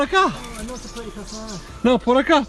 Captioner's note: in Spanish